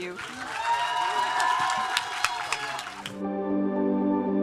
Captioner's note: audience cheering and applauding; soft music